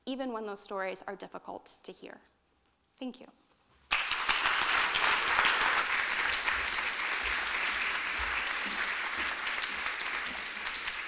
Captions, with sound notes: Even when those stories are difficult to hear. Thank you. [APPLAUSE]